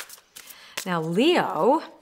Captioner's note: cards shuffling